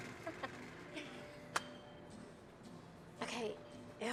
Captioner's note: Mackenzie laughing